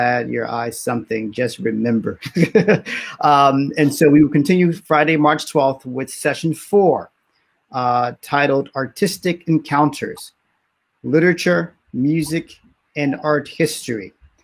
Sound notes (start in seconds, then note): 2.3 laughs